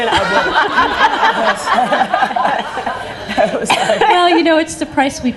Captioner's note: laughing